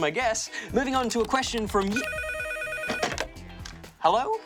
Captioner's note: phone rings